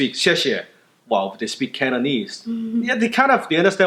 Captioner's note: speaking foreign language